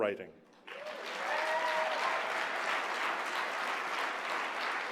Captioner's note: cheering